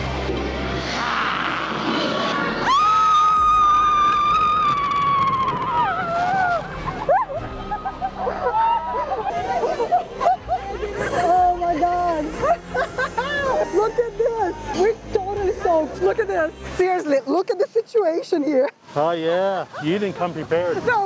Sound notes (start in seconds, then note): 7.6 laughs